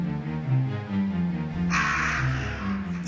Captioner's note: raven cry